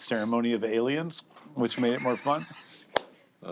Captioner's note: laughs